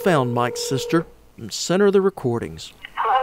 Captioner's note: phone ringing